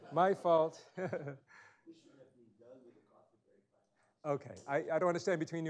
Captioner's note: chuckles